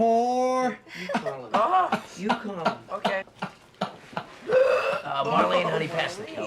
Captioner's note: George McFly signature laugh